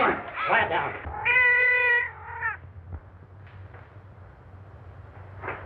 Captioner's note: cat meows loudly inside the wall